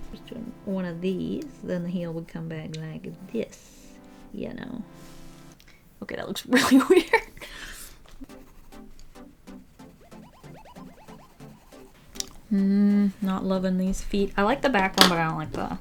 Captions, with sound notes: One of these then the heel would come back like this, you know. Okay, that looks really weird! [Laughs] Mmm not loving these feet. I like the back one, but I don't like the...